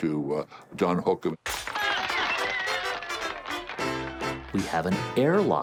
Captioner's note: glass shatters; festive music